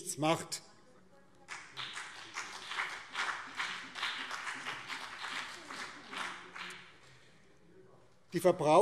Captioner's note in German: Beifall BÜNDNIS 90/DIE GRÜNEN